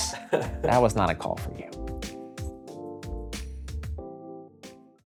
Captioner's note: laughs